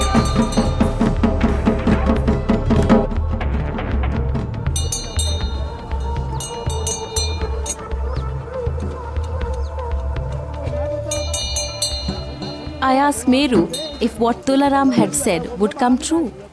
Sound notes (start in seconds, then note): 8.7 bell jingling; 8.7 intense music